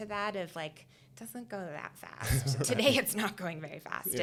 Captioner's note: chuckling